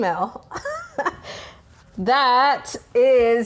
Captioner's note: laughs